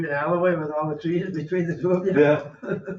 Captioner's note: laughs